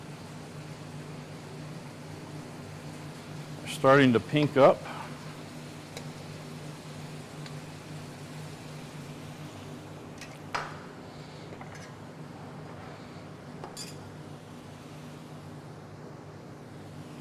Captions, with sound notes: We're starting to pink up. (skillet sizzling continues)